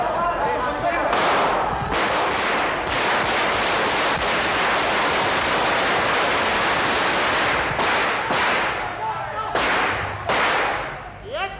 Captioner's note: ràfega de trets